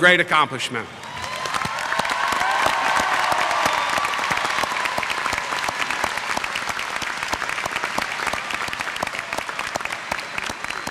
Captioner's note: applause